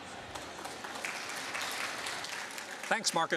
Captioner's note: applause